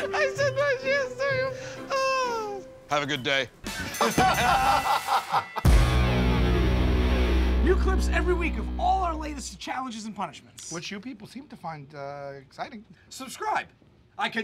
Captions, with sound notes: [ Laughing ] I said "Nice yams" to you! Oh! [ Deep voice ] Have a good day. [ Laughter ]